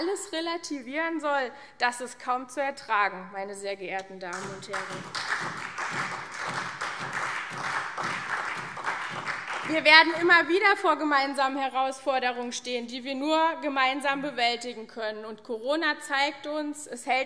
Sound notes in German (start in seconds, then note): 4.3 Beifall SPD und CDU